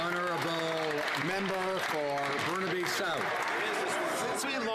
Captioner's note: some Applause